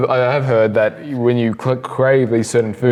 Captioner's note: laughs